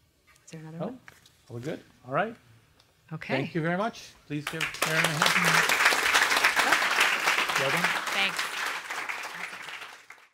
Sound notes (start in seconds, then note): 4.4 applause